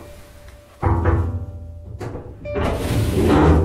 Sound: knocks on container door; eerie dramatic music

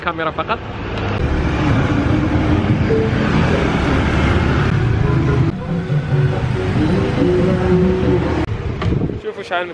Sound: engine sound

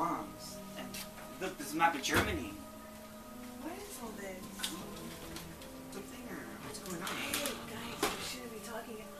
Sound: whisper

